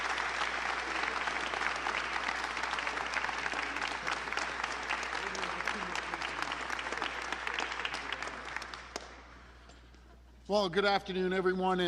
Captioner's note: applause